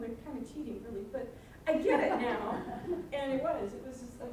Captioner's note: audience laughing